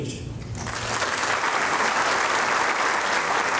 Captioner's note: applause